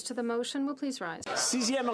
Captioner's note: speaking French